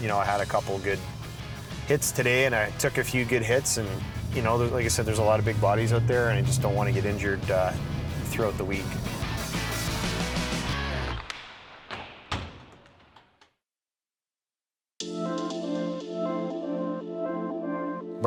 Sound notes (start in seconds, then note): 9.0 upbeat rock music; 12.2 slamming; 15.0 inspirational music